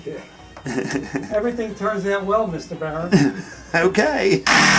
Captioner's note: laughs